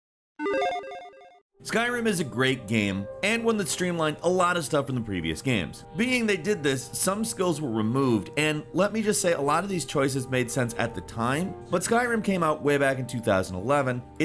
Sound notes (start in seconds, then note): 0.4 game tone plays